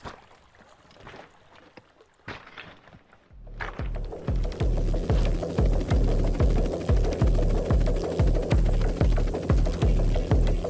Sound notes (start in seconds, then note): 0.0 stream burbling; 2.2 pebbles crunching; 3.9 helicopter blades whirring; 4.9 tense music; 8.0 tense music continues